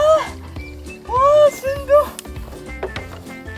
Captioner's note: laughs